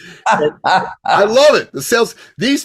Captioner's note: laughs